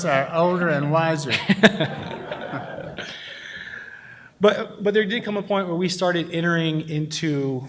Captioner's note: laughs